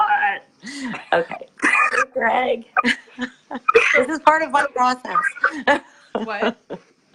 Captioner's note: laughing